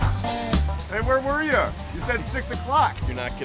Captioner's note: voiceover